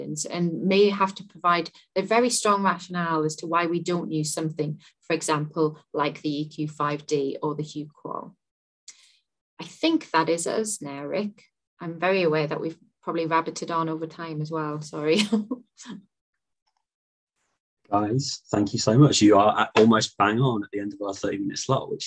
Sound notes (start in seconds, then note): 15.1 chuckles